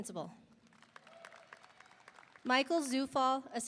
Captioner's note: audience applauding; audience cheering